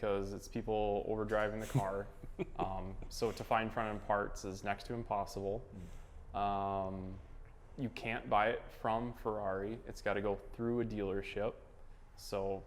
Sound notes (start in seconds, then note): 1.6 laughs